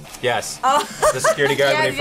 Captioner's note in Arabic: تضحك